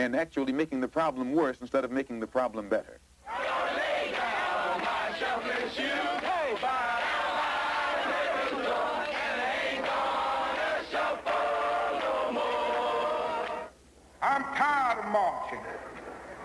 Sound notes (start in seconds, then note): 3.2 chanting